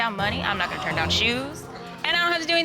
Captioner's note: audience gasps